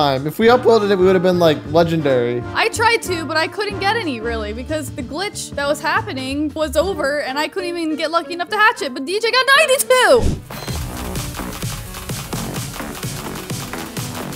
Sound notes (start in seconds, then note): 10.2 air whooshes; 11.5 upbeat music